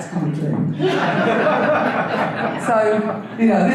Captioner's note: audience laughter